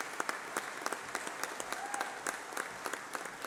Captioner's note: applause